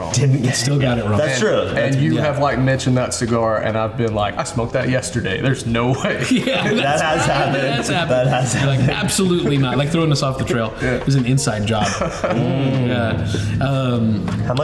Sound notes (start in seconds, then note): 6.6 laughs; 11.7 laughs